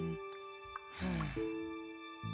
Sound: sigh

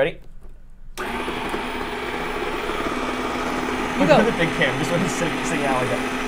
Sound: ice cream maker whirring

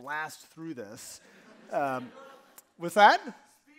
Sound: audience laughing

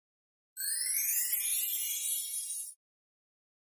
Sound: magical chiming

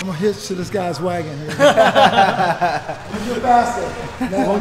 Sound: laughing

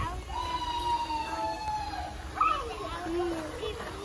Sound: howling noise

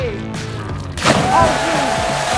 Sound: water splashing; audience cheering

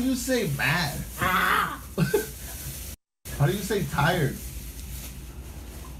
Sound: laughter

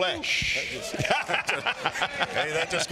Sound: Kenneth laughing

